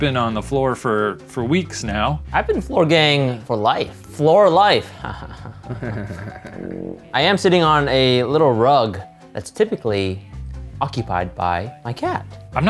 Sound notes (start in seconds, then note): 5.0 laughs awkwardly